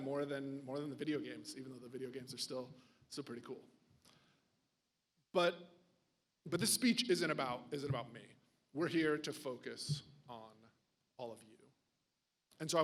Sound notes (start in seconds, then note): none